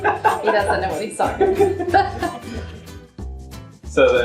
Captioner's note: laughing